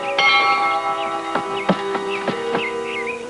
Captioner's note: schoolbell ringing; stomping; uneasy music